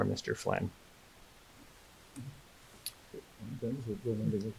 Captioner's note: muttering